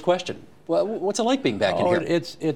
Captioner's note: laughs